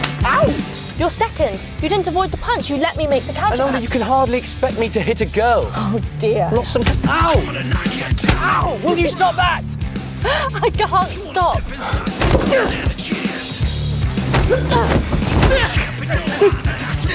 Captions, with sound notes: (face slaps) Ow! - Your second! You didn't avoid the punch, you let me make the counter! - Enola, you can hardly expect me to hit a girl! - Oh dear. - You're not some ... Ow! Ow! Will you stop that? (Enola laughs) - I can't stop! (women fighting)